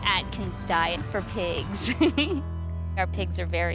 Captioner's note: laughing